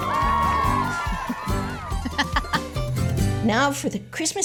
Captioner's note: laughing